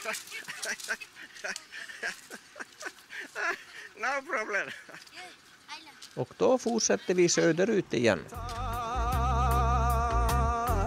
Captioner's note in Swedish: Skratt